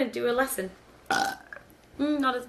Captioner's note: burping